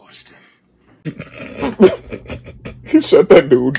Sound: cameraman laughing

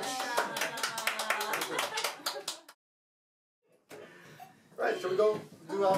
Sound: more clapping

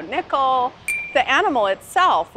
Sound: ding

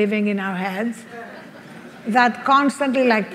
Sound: audience laughs

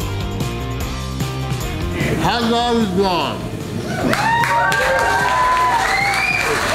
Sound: crowd cheering

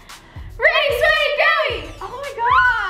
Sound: chanting

